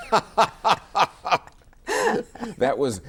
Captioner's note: both laugh